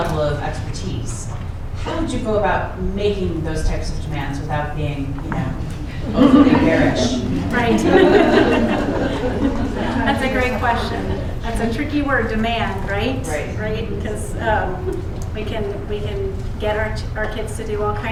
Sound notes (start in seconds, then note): 6.0 laughter